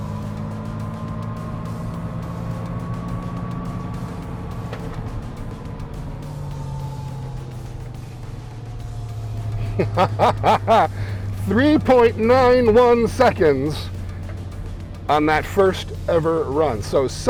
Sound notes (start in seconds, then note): 4.9 upbeat music; 9.5 laughing